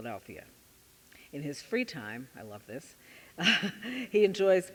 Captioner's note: chuckling